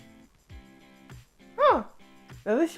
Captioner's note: Mickey Mouse Sounds